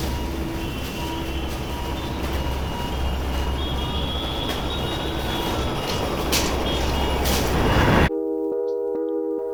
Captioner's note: car horns honking; police siren and jackhammer; birds chirping